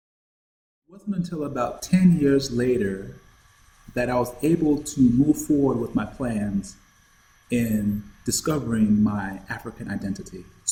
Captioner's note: insect sounds